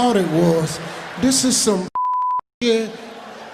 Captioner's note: beeping